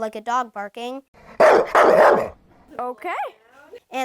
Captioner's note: dog barking sound